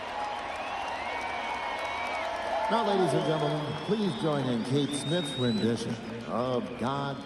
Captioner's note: cheers and applause